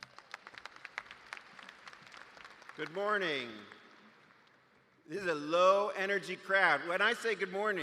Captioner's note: applause